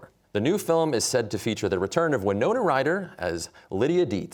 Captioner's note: none